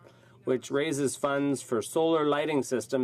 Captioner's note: speaking French